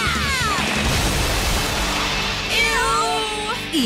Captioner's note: water rushing